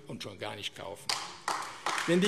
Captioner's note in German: Beifall AfD